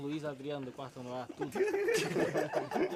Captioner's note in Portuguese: todos rindo